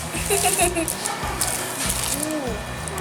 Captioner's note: laughs